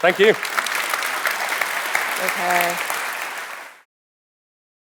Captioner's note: audience applauding